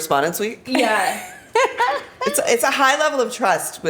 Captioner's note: laughs